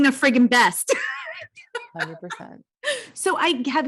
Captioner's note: laughs